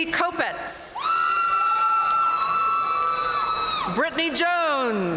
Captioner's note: audience cheering and applauding